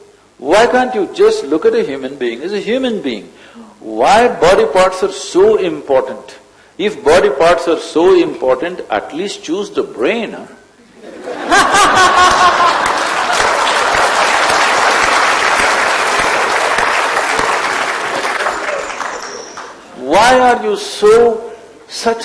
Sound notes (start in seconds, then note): 11.0 laughter/Applause